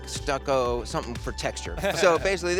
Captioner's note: chuckles